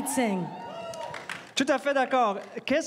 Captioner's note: crowd cheering and applauding